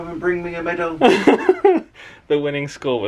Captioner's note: chuckles